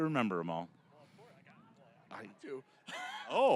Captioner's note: laughing